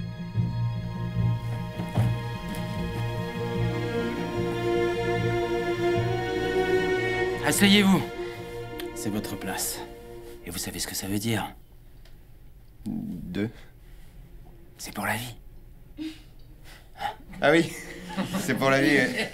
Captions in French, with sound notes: Asseyez vous ! C'est votre place. Et vous savez ce que ça veut dire ? De ? C'est pour la vie (Rires nerveux) Hein ?! Ah oui ! C'est pour la vie ouais